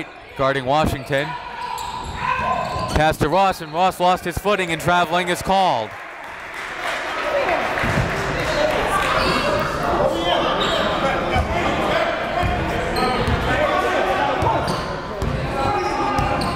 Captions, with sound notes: Leite guarding Washington. Pass to Ross and Ross lost his footing and traveling is called. (applauding) (gymnasium bustles)